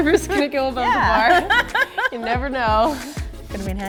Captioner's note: laughing